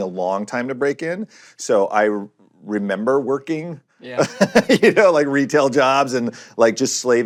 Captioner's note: laughs